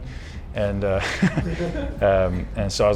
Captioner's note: laughing